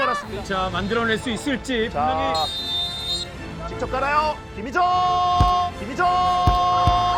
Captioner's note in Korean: 호루라기 소리